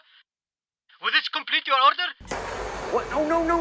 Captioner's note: phone